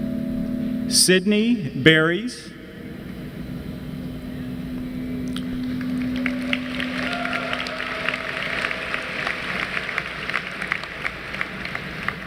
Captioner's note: applause